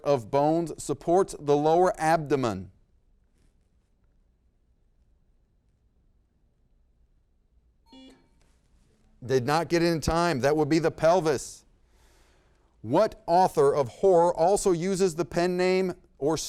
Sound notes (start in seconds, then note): 7.8 buzzer beep; 7.9 bell ding